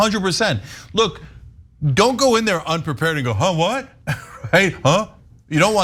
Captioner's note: laugh